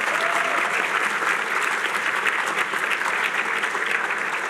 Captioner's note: applause